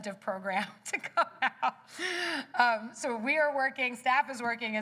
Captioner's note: laughter